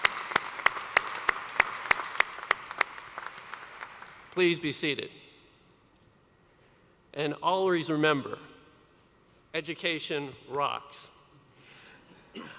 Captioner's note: applause